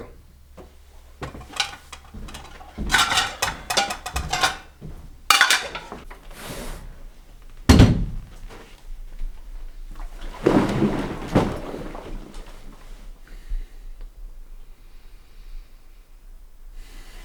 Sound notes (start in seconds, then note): 5.1 dishes clang; 8.1 waterbed sloshes